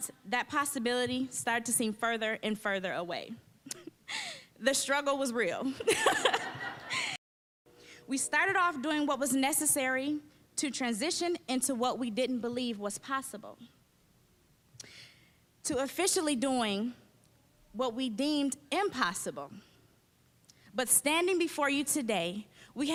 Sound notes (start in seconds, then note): 5.8 chuckling; 5.8 all laughing